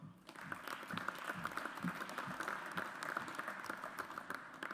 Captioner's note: audience applauds